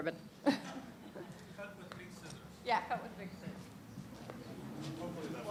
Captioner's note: laughs